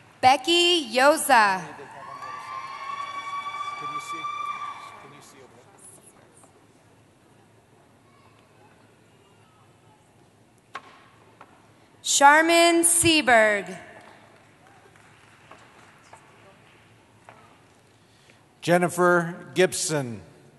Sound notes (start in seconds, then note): 1.6 cheering